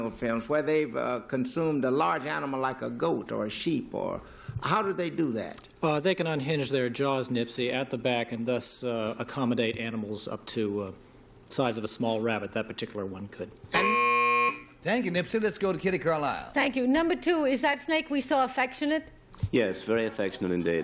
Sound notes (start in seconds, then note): 13.7 buzzer